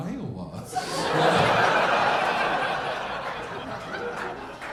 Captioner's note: audience laughing